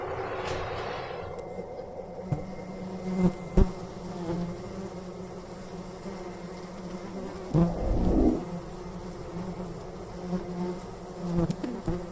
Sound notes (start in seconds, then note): 2.2 more flies buzzing